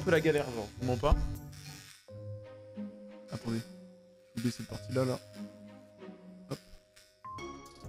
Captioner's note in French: grésillements